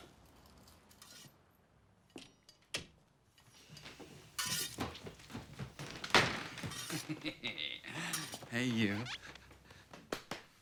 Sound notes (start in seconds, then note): 6.9 Beverly laughs